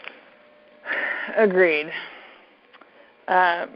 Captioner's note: sighs